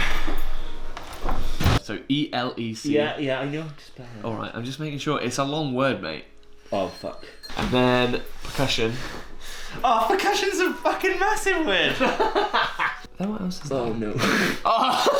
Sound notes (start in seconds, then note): 11.9 laughing